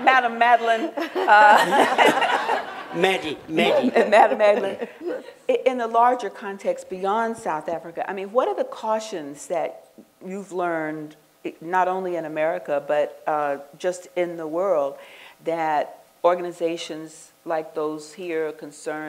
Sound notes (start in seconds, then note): 0.6 laughter